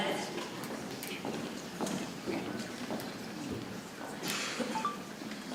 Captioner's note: people chattering softly